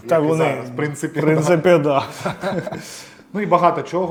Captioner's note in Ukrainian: сміх